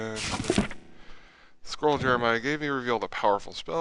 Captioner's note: reading aloud